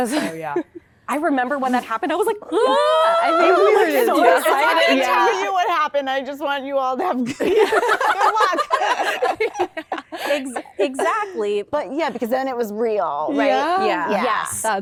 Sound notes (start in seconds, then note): 7.2 laughter